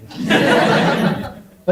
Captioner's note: audience laughs